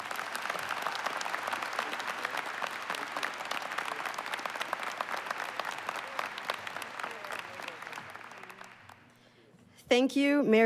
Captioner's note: applause